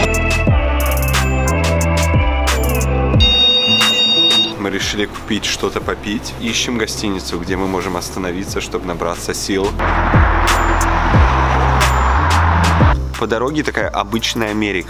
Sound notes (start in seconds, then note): 0.0 cool vibe music; 3.2 alarm beeping; 3.4 speaking in foreign language; 9.8 car whirring; 9.8 speaking in foreign language